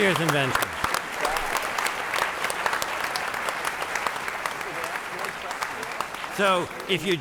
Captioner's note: applause